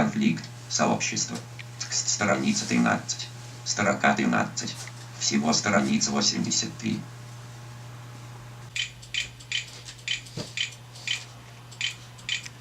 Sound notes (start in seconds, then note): 8.7 speech synthesizer makes clicking sounds